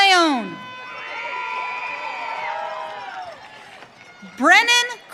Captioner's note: audience cheering